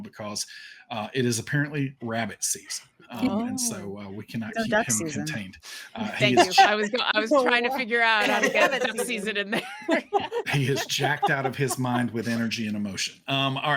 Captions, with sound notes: because it is apparently rabbit season. And so we cannot keep him contained. - Oh, that season. - Thank you. I was trying to figure out how to get that season in there. (cast members laugh) - He is jacked out of his mind with energy and emotion.